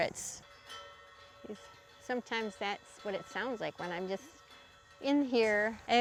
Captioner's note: chimes tinkle brightly